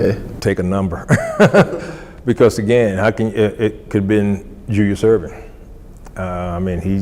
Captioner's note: laughs